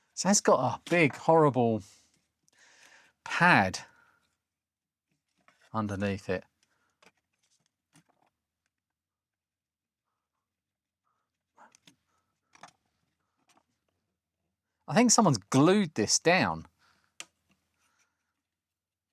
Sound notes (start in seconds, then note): 7.4 silence; 18.8 silence